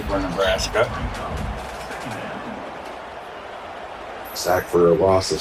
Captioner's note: crowd cheering